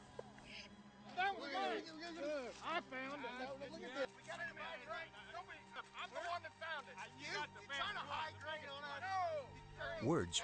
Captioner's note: men arguing